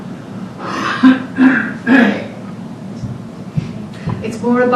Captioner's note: coughing